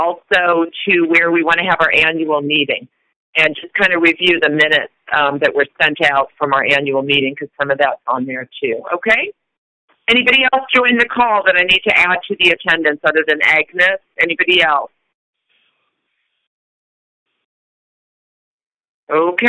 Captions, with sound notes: also to where we want to have our annual meeting and just kind of review the minutes that were sent out from our annual meeting, because some of that is on there, too. Okay. Anybody else join the call that I need to add to the attendance other than Agnes? Anybody else? (Silence.) Okay.